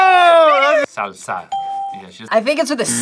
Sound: bell rings

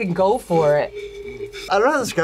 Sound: blows on bottle

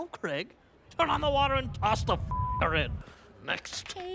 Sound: beep

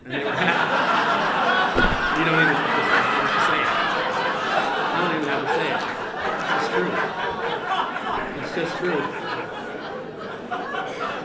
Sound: laughter

